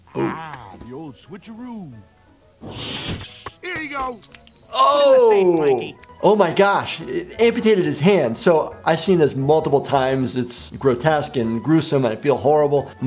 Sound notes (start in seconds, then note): 2.6 door whooshing; 4.5 wet slopping sounds